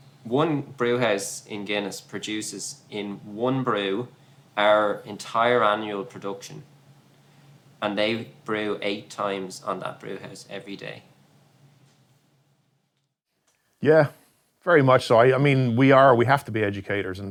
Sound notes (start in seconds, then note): none